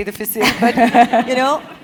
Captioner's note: laugh